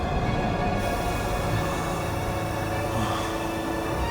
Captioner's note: gas hissing